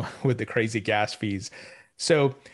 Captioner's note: chuckles